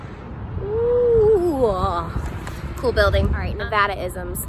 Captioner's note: oooh